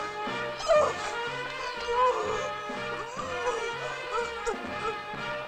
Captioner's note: intense music; muffled grunting